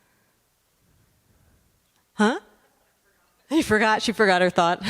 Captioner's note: speaker off microphone